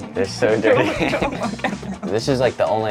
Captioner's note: both laugh